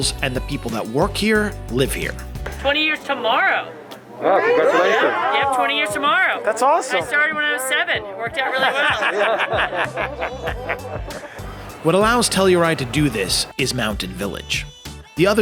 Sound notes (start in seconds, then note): 9.9 people chuckling